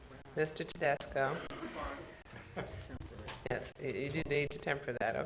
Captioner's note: talks quietly